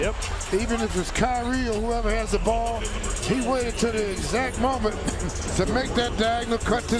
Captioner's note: cheers and applause